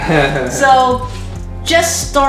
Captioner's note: laughter